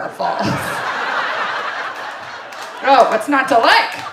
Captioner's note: audience laughing